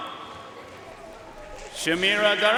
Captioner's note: audience cheering and applauding